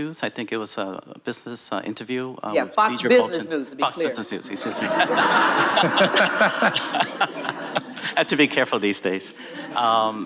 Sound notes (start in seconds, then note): 4.4 audience laughing